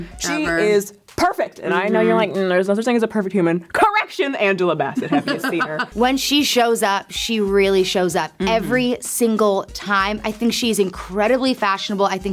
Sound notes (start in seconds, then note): 5.0 laughs